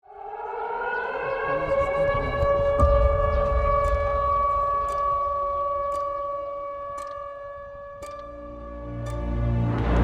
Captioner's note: the sound of sirens